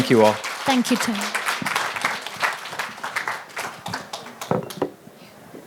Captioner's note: applause